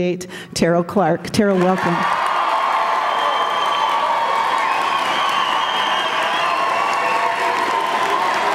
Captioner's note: cheers & Applause~